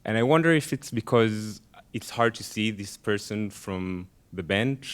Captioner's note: none